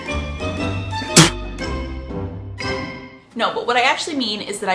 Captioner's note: spits water